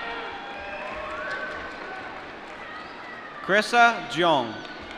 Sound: applause

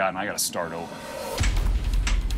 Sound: hammering

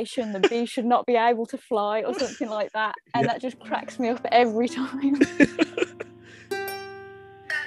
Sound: laughter

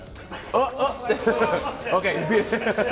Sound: laugh

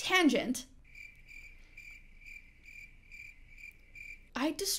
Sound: crickets chirping

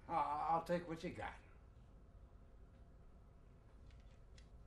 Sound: none

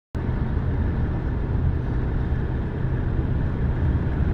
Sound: car accelerating

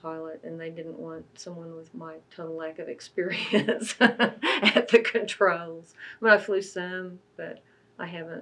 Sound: laughs

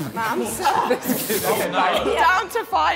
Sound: Sidemen laughing

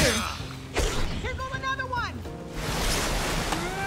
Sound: sword swipe

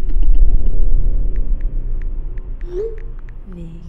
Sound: ominous music; typing

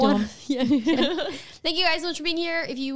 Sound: laughing together

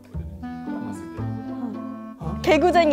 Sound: nervous

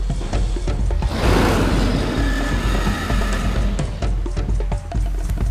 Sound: dinosaur roars loudly

